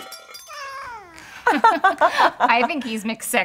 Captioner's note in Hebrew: צחוק